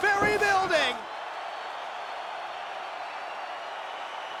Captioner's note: spectators cheering